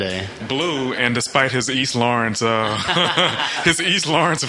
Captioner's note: laughs